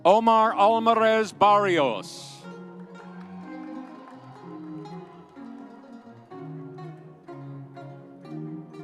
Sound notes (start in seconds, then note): 2.7 audience cheering